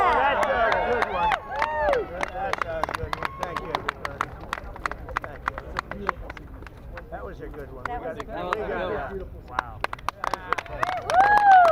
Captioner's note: applause